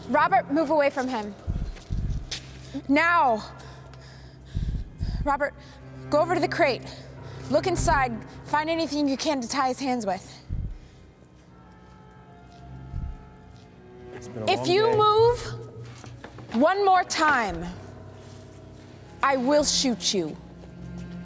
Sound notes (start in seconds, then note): 14.4 Carter mumbles